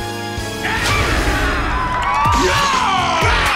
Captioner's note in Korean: 포효